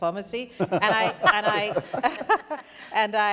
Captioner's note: panelists laughing